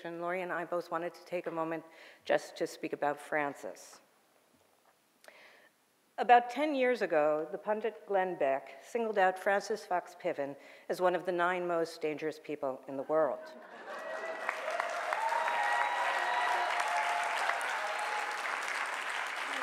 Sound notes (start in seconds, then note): 13.4 audience laughing and cheering